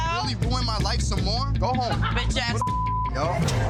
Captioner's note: beep; every shouting